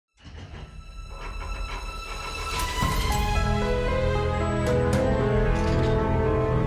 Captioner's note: metal clanking; mysterious music